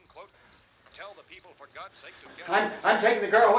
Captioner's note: radio continues announcing